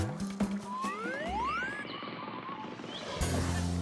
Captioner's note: birds chirping; pleasant music